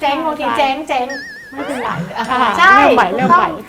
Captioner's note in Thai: หัวเราะ